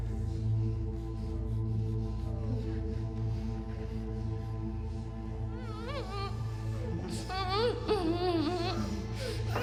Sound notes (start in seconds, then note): 6.1 victims groaning